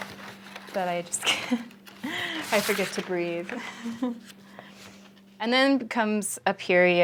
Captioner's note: laughs